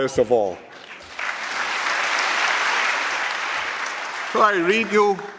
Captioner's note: applause